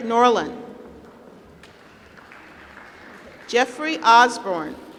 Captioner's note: applause